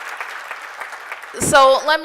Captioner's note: applause